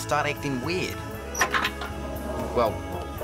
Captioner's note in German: Schloss klickt